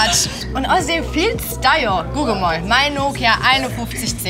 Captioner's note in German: im Dialekt